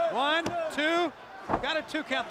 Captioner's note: crowd chatter